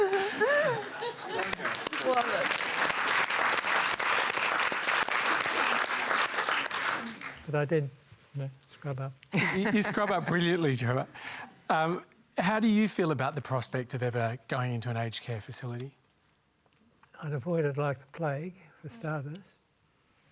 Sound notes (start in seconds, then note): 2.2 applause